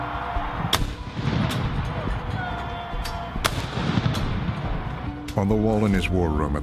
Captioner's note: cannons firing